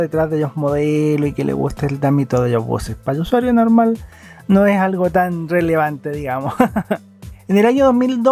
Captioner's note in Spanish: risas